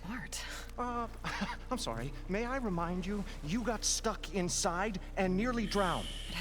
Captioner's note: laugh